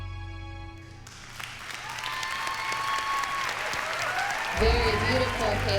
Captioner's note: cheering, applause